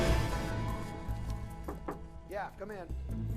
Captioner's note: knuckles rapping